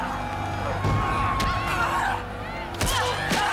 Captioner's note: grunting